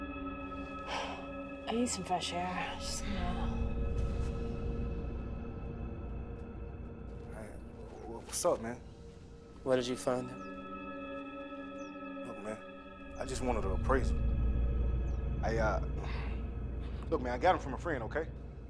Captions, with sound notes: - (exhales sharply ) I need some fresh air. Just don't know. - Hey, what, what's up man? - Where did you find him? - Look man, I just wanted an appraisal. I uh, look, man, I got it from a friend, okay?